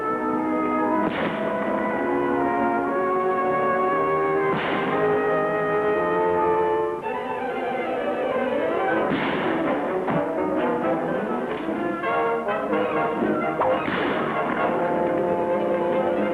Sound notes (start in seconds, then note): 1.0 gun bangs; 4.5 gun bangs; 6.2 dramatic music; 9.1 gun bangs; 13.7 gun bangs